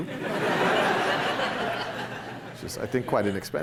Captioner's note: laughter